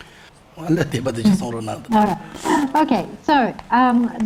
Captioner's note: monk speaks in foreign language